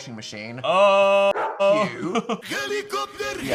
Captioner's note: dog barks